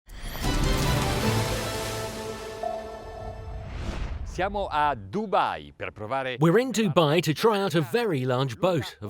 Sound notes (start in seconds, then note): 0.2 dramatic music; 4.5 speaking in a foreign language